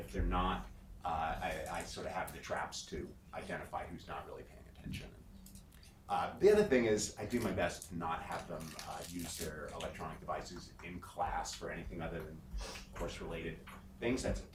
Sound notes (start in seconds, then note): none